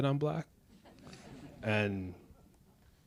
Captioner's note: audience laughs